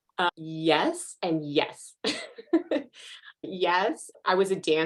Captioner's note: chuckles